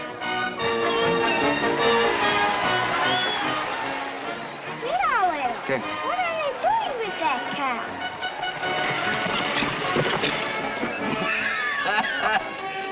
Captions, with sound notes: [ INSPIRING MUSIC - APPLAUSE AND CHEERS ] - [ IN SPANISH ] Look, grandpa... - [ IN SPANISH ] What? What are they doing with that cow?